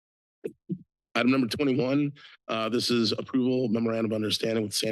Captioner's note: coughs